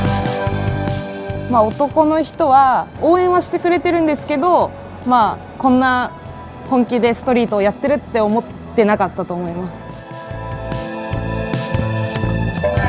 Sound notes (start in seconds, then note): 1.8 speaking in foreign language; 10.2 upbeat music